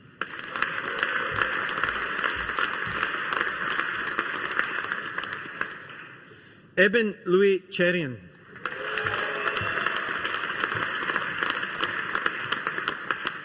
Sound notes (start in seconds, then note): 0.1 audience applauding; 8.5 audience applauding